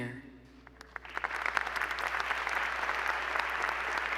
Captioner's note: applause